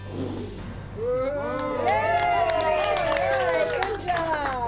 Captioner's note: all cheering